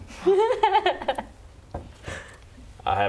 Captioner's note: laughs